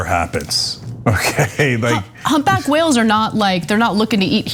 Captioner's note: laugh